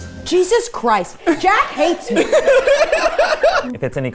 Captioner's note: everyone laughing